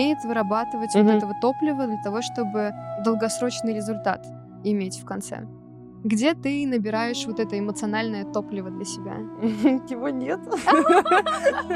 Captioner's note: both laughing